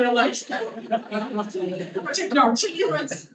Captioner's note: audience laughing